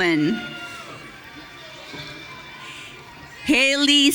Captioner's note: audience cheering